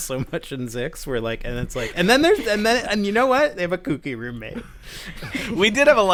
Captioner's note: laughter